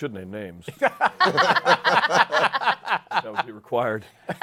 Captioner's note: laughter